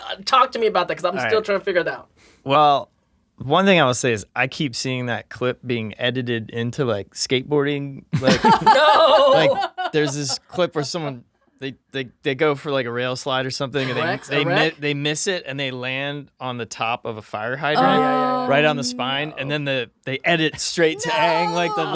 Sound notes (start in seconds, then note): 8.2 laughs; 8.5 Dante shouts; 17.8 they exclaim; 20.9 they laugh